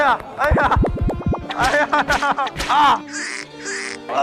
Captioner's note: slap